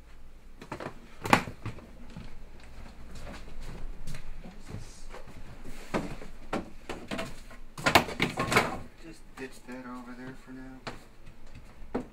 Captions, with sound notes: (thudding) - Just ditch that over there for now.